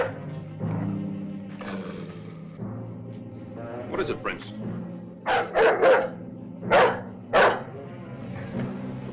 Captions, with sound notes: (dog barking) (dog growling) What is it, Prince? (dog barking)